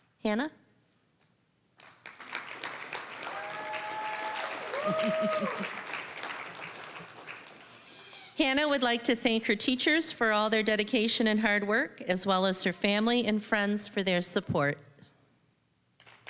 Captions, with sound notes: Hannah. (applause, cheering) Hannah would like to thank her teachers for all their dedication and hard work, as well as her family and friends for their support.